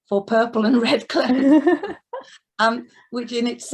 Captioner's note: laughs